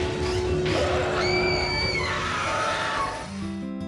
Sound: scream

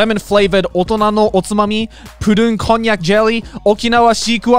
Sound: speaks Japanese

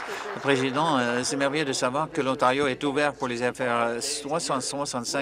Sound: applause

